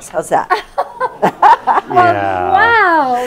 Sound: laugh

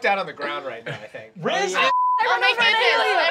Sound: beeping

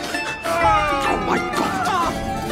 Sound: Ed and Stede moaning in background

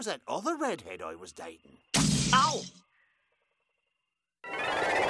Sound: crash

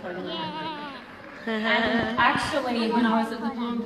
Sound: audience laughter

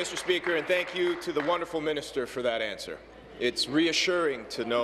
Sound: applause

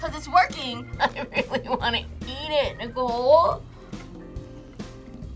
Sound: whimpers

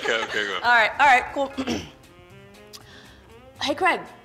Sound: laughs; clears throat

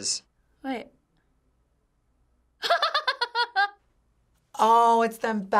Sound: laughs

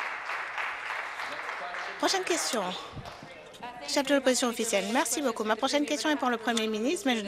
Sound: applause

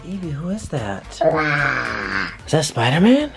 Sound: child growling

